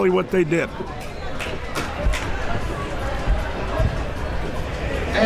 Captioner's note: crowd talking